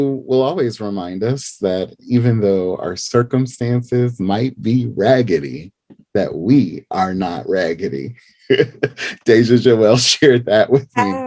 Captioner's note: laughing